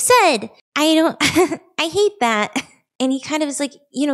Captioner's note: laughs